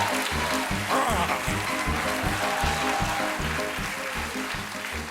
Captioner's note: cheers and applause